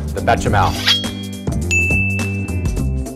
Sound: knife sharpening; dinging

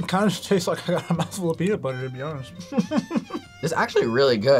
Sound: laughs

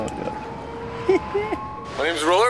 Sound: chuckling

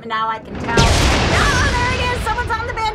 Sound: thunder booming

